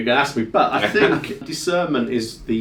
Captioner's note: chuckles